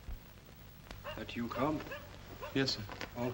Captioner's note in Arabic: ينبح الكلب